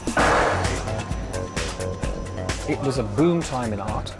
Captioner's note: gavel banging